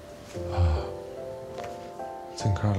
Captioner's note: sighing